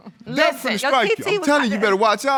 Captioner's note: chuckles